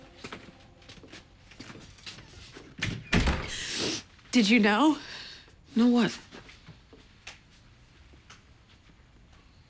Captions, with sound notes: [ Sniffles ] Did you know? Know what?